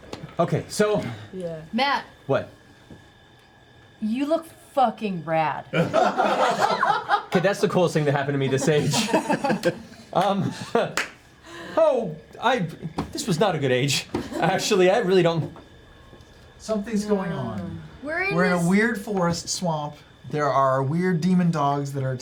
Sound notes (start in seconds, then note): 5.7 laughing